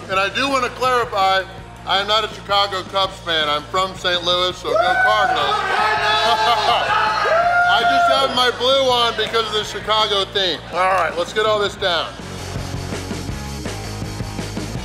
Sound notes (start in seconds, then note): 4.6 crowd yelling; 6.1 laughing